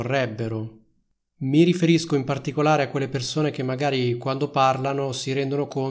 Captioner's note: Italian